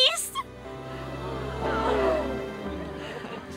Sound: gasping

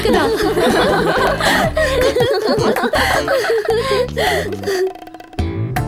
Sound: laughs

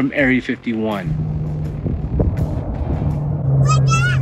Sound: airplane engine humming

